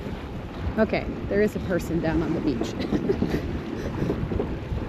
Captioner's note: laughs